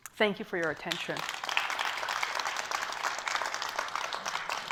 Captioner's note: applause